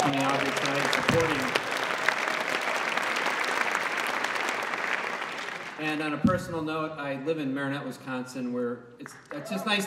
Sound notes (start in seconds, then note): 0.0 clapping